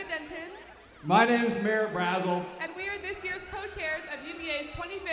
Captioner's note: cheers